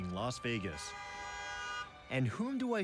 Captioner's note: horn honks